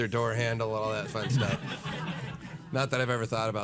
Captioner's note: audience laughing